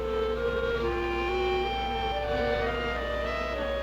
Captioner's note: buzzing